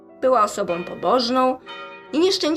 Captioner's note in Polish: bicie dzwonu